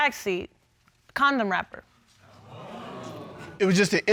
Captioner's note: audience exclaims